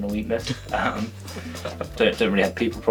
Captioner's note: laughs